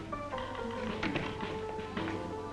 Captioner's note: door closes; saloon music